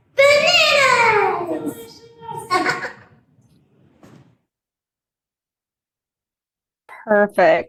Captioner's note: chuckles